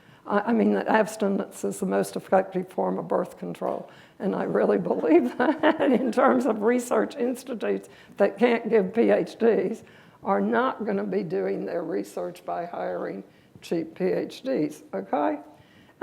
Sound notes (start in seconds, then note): 5.2 laughter